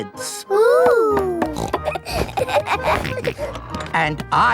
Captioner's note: snorts, laughs